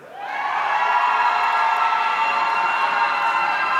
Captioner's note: audience cheering